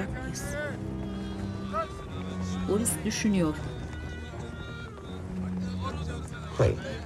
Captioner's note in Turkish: Sokak sesleri; Müzik - Gerilim